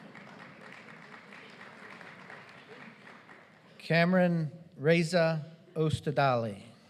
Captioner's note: applause